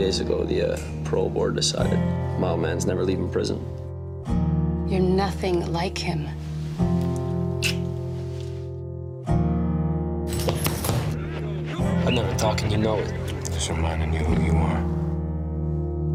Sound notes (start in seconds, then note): 10.4 fists pound punching bag